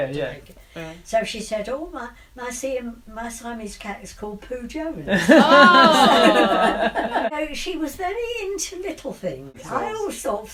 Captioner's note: laughs